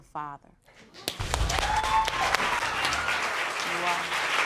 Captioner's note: applauding; audience cheering and applauding